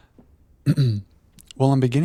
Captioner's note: clears throat